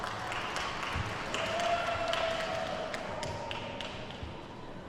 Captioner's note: attendees cheer and clap